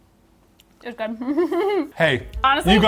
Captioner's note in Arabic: ضحكة خافتة